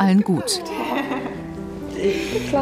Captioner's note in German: Lachen